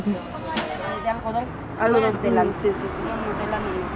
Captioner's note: in Spanish